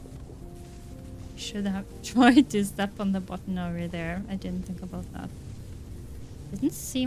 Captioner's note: laughs